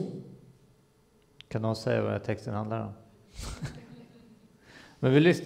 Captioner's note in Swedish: skrattar